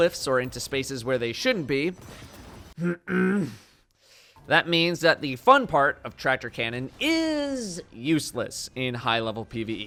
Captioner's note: cough